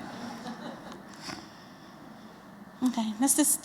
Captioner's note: laughter